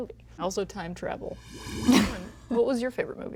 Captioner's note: whoosh